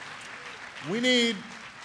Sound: applause

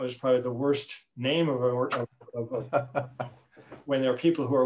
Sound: laughing

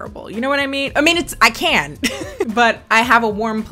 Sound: laughs

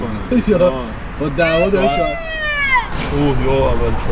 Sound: loud shout

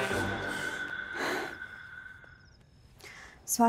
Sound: exhales sharply

